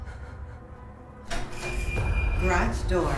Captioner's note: alarm beeping